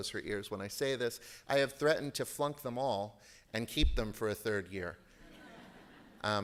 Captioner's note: laughter